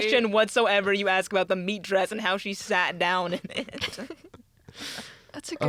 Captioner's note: laughter